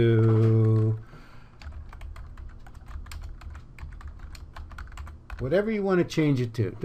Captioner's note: typing